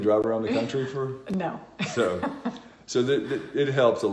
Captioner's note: laughing